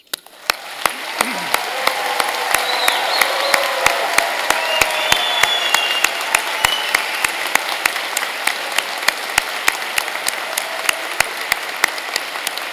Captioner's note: applause